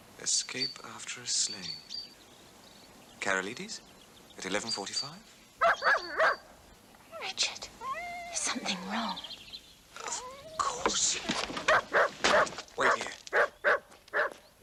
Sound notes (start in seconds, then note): 5.6 dog barking